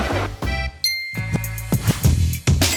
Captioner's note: bell dings; hiphop music plays